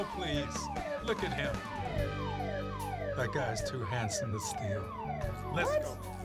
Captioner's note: alarm continues blaring